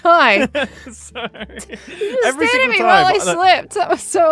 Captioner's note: laughs